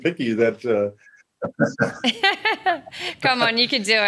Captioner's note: laughs